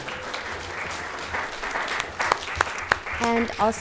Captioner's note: audience applauding